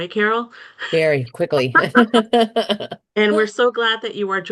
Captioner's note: laughs